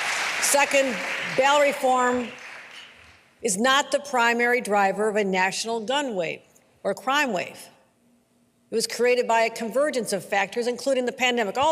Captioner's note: applause